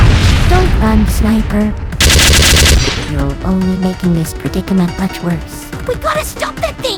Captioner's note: fires guns